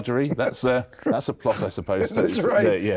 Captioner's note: chuckles